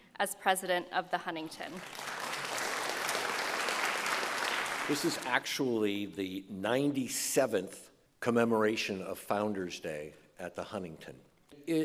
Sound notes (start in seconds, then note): 1.7 group applauding